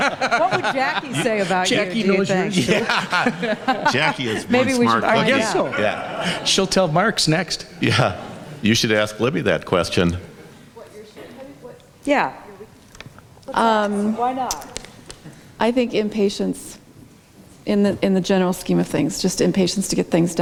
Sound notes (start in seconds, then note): 3.9 laughs